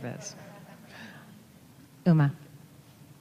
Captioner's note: audience laughing